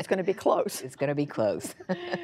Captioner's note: laughter